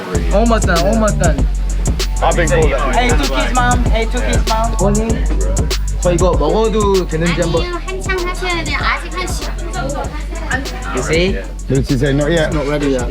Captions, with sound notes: Almost done. *Speaking Korean* You see? Did she say “not yet”?